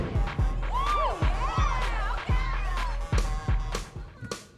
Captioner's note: cheering